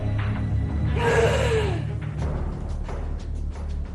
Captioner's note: gasps